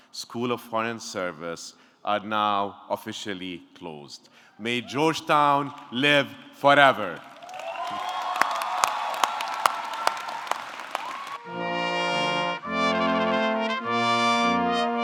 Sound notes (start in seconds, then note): 6.6 audience cheering; 7.8 audience clapping; 11.4 upbeat music